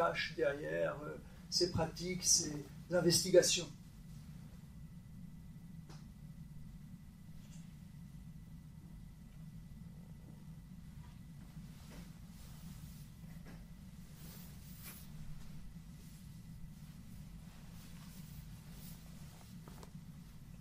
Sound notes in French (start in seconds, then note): 6.6 long silence